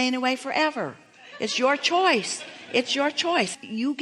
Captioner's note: audience laughing